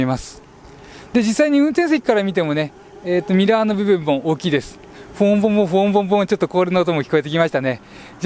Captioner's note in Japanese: アクセルミュージック・Rhythmic engine revving